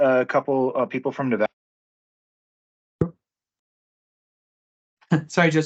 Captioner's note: no audio